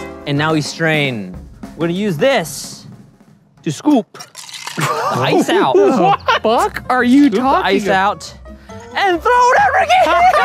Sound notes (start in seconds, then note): 4.7 laughing